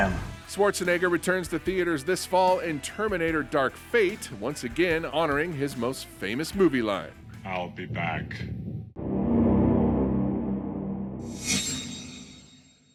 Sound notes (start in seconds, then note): 8.9 eerie music; 11.2 metallic whooshing